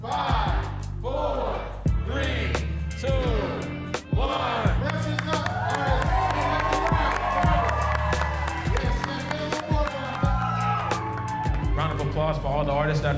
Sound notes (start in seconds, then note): 5.9 attendees cheering